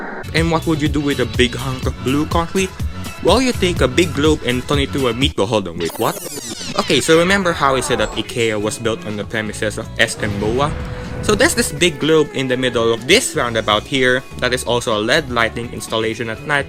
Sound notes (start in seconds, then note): 0.0 voice gets echoey; 6.0 reversing sounds play